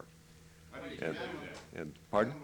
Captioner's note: reporters shouting questions